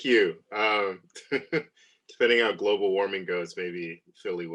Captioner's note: laughs